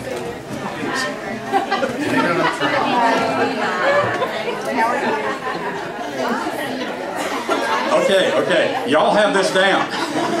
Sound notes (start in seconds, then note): 1.3 group stand, laughing